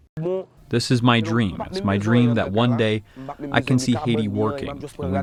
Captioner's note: through translator